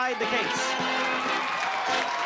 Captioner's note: applause